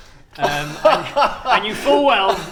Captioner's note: ridiculous laughter